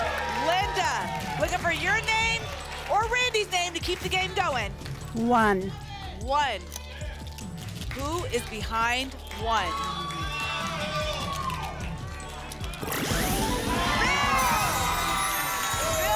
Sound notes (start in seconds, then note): 9.2 cheering; 14.8 applause and cheering